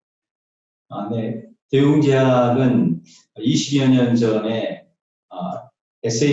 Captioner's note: speaking in foreign language